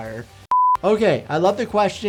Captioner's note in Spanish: pitido de pantalla